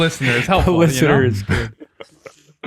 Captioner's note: laughs